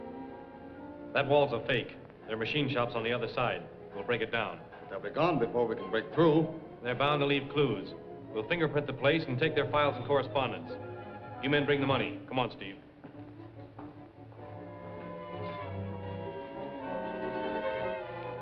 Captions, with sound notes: That wall is a fake. There are machine shops on the other side. We'll break it down. But they'll be gone before we can break through. They're bound to leave clues. We'll fingerprint the place and take their files and correspondence. You men, bring the money. Come on, Steve. [FOOTSTEPS] [SUSPENSEFUL MUSIC]